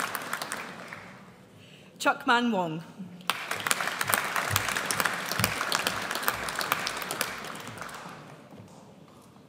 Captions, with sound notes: Cheuk Man Wong. (AUDIENCE APPLAUDS)